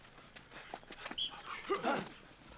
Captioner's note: grunting; whistle blows; grunting